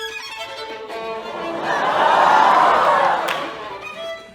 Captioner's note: classical violin music; audience laughs